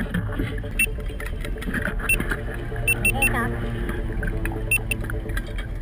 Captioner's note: irregular beeping